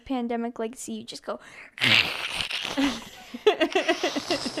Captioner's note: imitates tearing